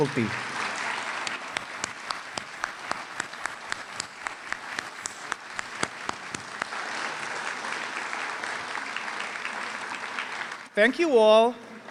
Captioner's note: applause